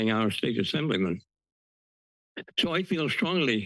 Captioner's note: pause